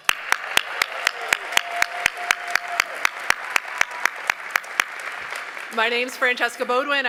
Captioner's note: applause, cheering